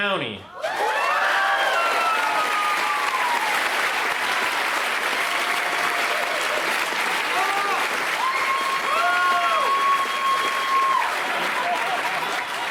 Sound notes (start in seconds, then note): 1.9 cheering